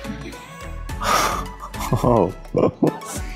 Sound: gasp

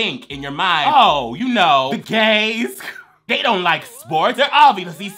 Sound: laughs

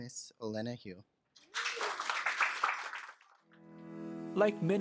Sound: applause

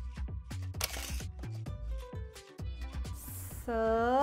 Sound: camera clicks

